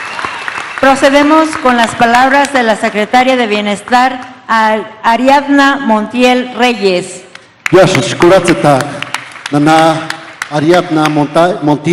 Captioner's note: applause